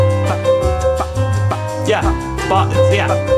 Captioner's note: mimicking drum beat